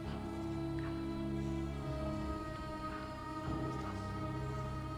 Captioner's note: soft dramatic music; whispering continues